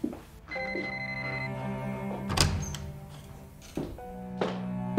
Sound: phone ringing

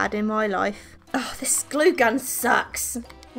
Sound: groans

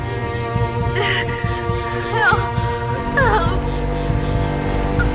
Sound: Renee cries

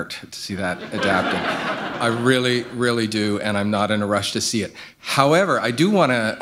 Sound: laughter

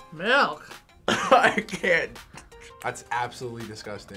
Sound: coughs

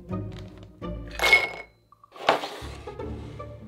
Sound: nuts dropping

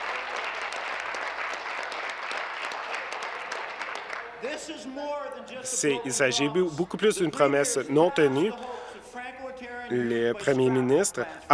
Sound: applause

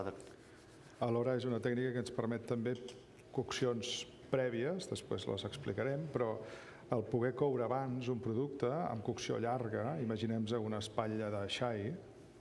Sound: speaking catalan

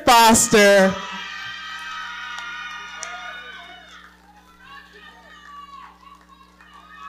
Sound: audience cheering

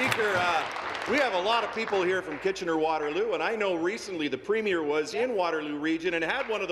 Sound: applause

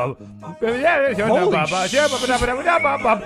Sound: laughing; strange beatboxing / singing

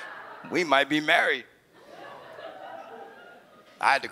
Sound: chuckles; audience laughs

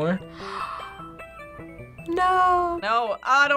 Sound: gasps

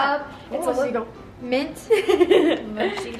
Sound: laughs

